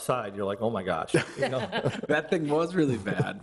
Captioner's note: people laugh